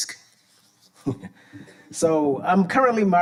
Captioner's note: chuckling